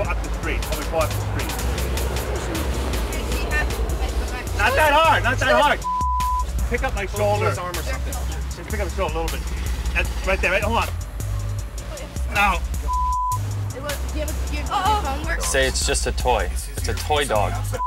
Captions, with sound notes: pull up the street and pull up the street. Not that hard, not that hard (beep). Pick up my shoulder. - Hold his arm or something. - Just pick up my shoulder a little bit. Right there, hold on. No, (beep). - Does your phone work? - Say, it's just a toy, it's a toy dog.